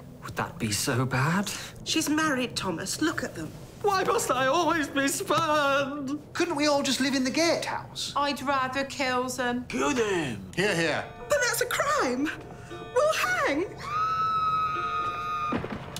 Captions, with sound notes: Would that be so bad? She's married, Thomas. Look at them. Why must I always be spurned?! [Pat] Couldn't we all just live in the gatehouse? - I'd rather kills 'em. - Kill them. - Hear, hear. But that's a crime. We'll hang. (Distant screaming)